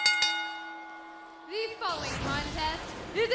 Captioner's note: bell ringing